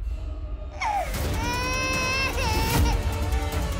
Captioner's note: baby crying